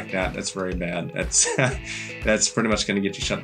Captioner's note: laughs